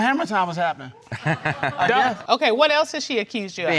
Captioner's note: laughing